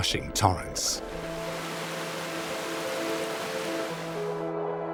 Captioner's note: water sloshes; gentle music